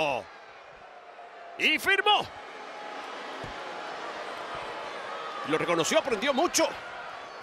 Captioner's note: applause